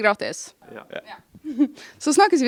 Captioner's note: giggle